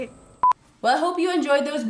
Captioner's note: beeping